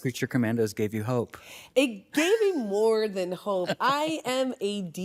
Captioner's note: chuckles